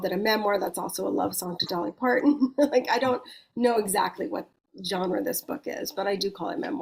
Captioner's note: chuckles